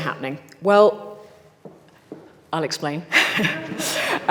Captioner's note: laughs